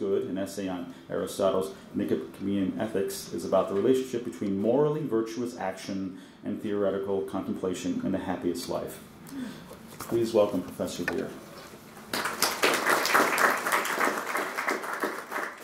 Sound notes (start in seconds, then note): 12.0 applause